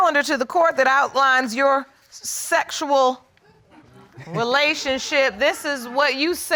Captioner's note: audience chuckling